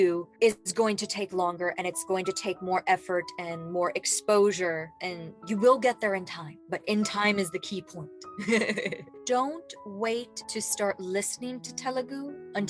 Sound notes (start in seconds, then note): 8.5 laughing